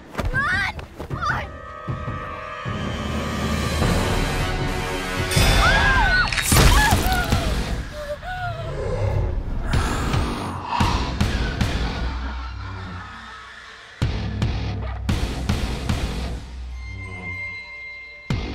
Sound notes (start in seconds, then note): 5.4 screaming; 6.3 ghostly screeching